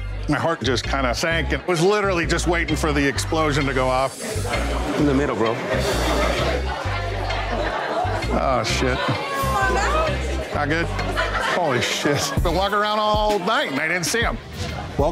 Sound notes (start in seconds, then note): 0.0 reggae music; 6.5 bar bustling